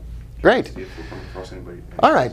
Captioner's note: mumbling